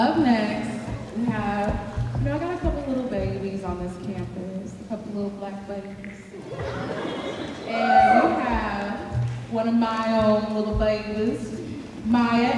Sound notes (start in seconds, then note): 6.3 audience laughing